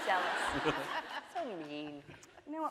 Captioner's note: laughing